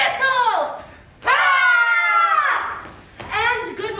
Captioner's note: all yelling